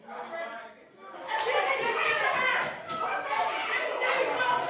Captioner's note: shouting; all clamoring